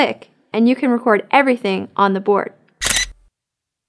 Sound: camera shutter sound

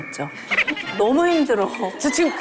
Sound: failed to hold back laughter

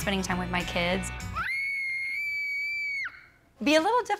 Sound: screaming

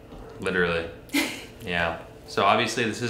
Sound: chuckles

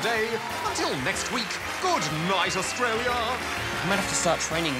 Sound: applause

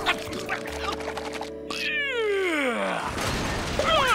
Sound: yawning; grunting

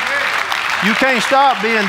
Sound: audience applauding

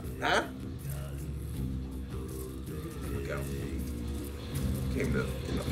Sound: laugh

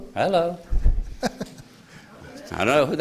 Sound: laughter

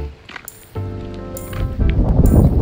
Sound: wind

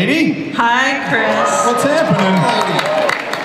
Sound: audience cheers

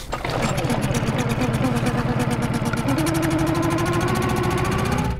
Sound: boat engine revving

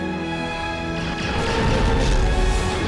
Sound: rocket fire

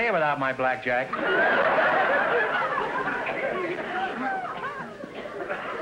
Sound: audience laughter

